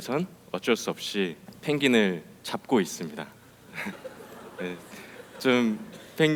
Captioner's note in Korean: 웃음